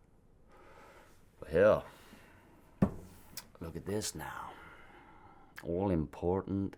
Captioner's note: sighs